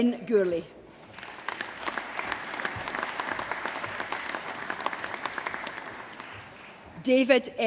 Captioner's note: applause